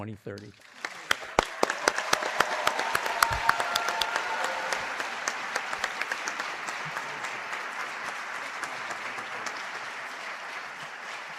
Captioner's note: applause